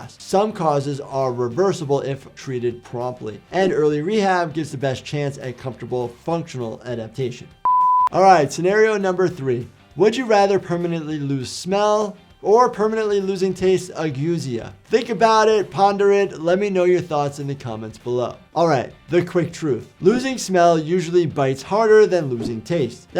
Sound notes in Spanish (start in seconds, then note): 7.6 pitido de pantalla